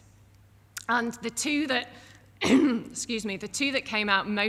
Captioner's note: clears throat